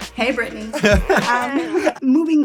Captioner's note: laughs